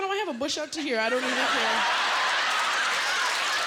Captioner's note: laughter